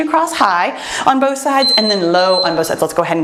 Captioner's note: timer beeps